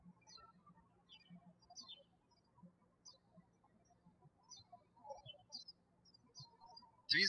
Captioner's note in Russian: птички щебечут